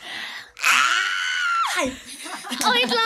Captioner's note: squealing